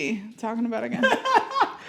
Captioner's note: laughing